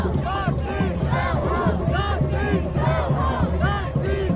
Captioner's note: crowd shouting